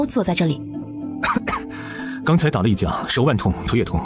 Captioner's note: coughs